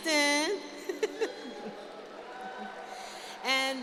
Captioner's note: cheering